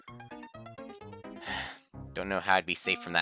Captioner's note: sigh